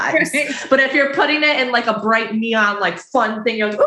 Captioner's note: laughing